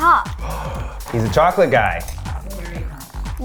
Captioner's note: gasping; chuckles